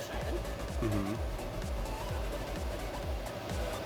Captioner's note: cooking fan humming